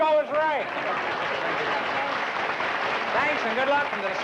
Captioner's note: applause